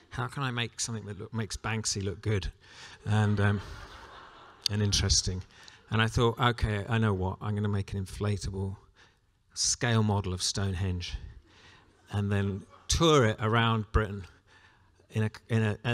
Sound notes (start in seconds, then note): 3.1 laughter